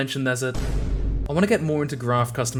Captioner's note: boom